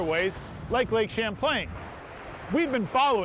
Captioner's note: waves crashing